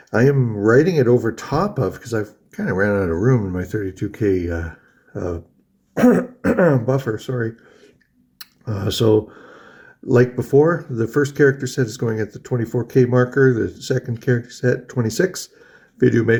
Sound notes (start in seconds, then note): 5.9 coughs